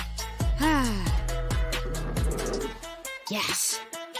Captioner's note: panting